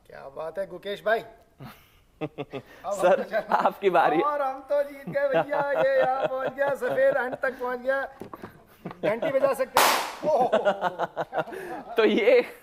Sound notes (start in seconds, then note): 2.2 laughter; 10.2 laughter